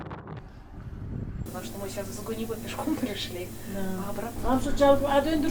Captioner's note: explaining our situation in Russian